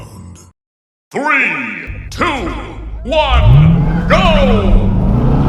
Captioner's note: deep voice